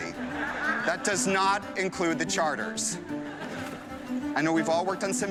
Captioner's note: chuckling